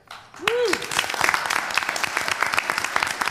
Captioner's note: applause